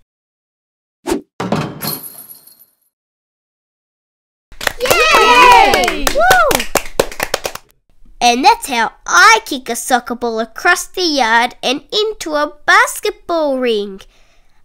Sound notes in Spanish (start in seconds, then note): 4.5 Aplausos